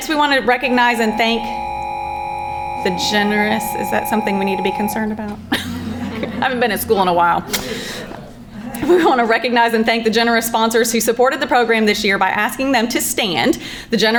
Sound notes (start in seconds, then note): 4.8 background chattering